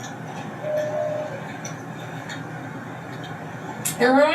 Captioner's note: pigeon coos